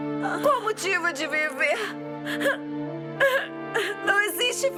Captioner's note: sobs